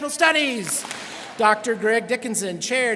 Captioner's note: students clap